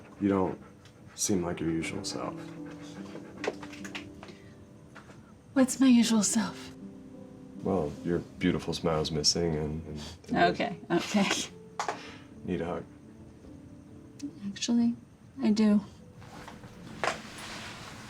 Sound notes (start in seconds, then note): 3.4 dog panting